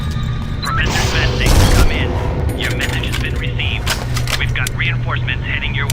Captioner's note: radio